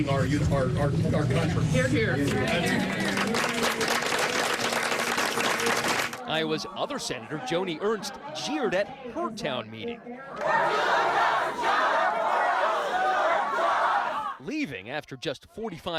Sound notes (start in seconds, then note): 6.1 applause